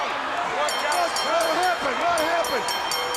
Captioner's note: bell ringing